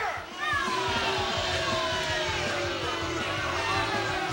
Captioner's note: crowd booing